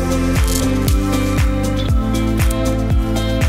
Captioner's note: snapping